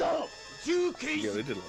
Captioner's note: non-english speech